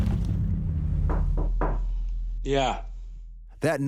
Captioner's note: knocking on door